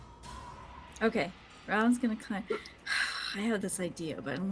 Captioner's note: sighs